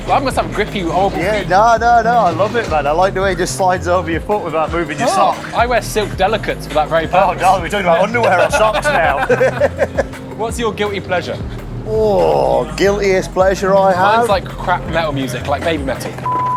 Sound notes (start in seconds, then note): 8.8 both laugh